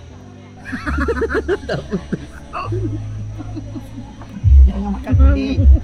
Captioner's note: laugh